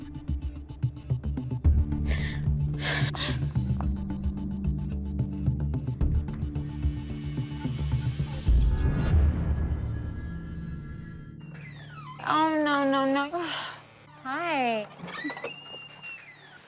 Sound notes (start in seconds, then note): 1.0 crying